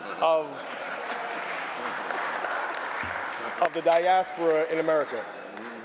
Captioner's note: applause